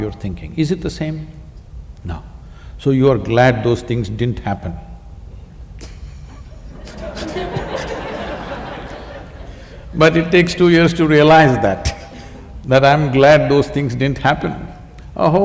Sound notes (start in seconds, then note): 8.6 laughter